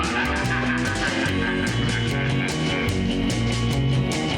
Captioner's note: scary laughing; country music